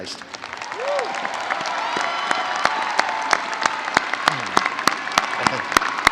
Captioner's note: audience cheering and applauding